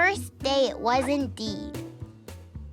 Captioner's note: baby cooing